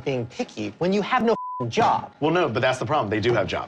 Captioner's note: beep